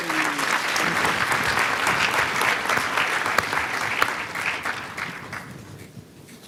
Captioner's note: applause